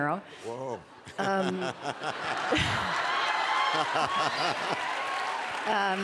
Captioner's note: laughter